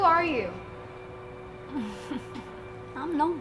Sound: laughs

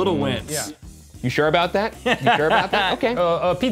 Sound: laughing

